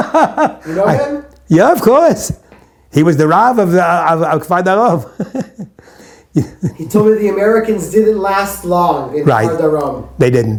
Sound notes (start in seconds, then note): 6.3 chuckles